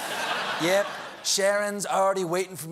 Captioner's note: laughter